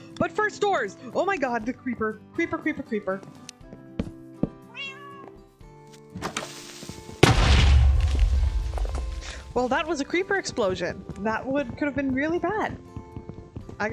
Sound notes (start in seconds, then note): 6.3 Creeper Hiss; 7.2 Creeper Explodes